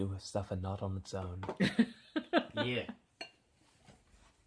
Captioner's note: laughs